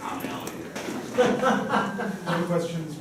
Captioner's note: laughs